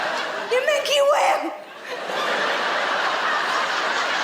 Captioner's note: laughing